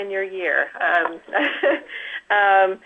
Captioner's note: laughs